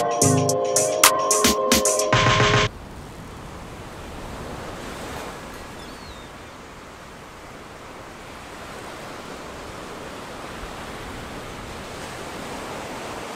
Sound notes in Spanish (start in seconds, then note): 2.4 olas de mar